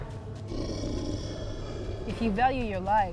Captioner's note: snarling